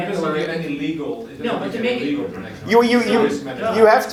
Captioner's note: audience discussing